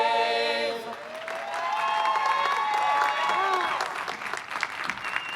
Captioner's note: applause, cheering